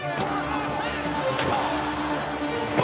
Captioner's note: applause